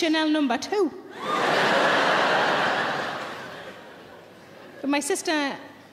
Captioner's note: audience laughing